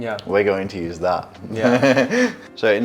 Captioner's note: laughs